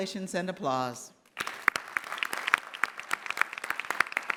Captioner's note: clapping